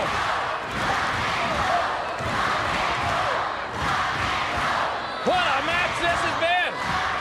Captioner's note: crowd cheering